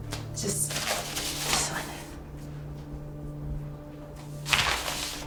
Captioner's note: envelope rustling; tense music